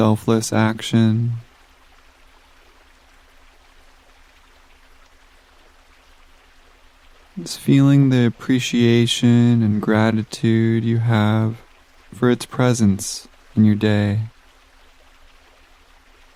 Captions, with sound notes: selfless action. (water gushing) Just feeling the appreciation and gratitude you have for its presence in your day.